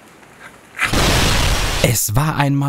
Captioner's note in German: Explosion